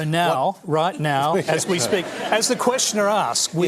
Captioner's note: laughter